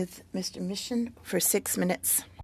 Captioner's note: speaking French